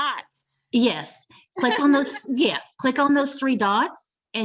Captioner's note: laughter